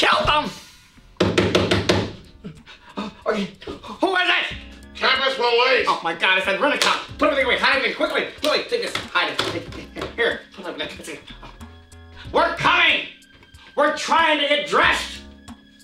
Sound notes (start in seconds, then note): 1.2 door knocks; 5.8 voiceover